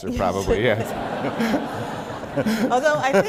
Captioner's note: laughter